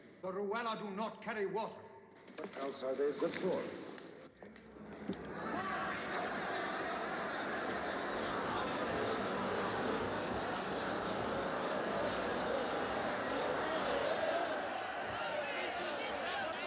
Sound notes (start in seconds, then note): 5.5 chattering